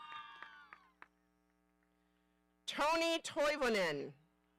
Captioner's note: audience cheering